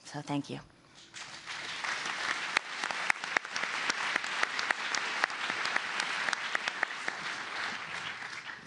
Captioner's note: applause